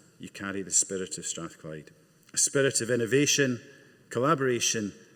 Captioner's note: none